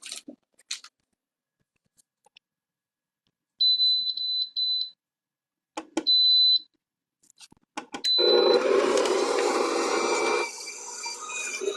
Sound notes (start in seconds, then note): 3.7 mixer beeping; 8.1 mixer whirling